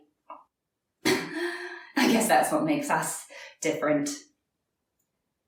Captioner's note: laughs